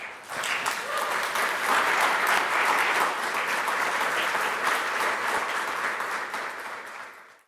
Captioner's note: applause